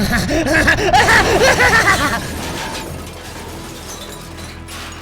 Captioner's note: Cucuy laughs; ship shutters